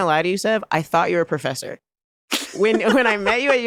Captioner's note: laughter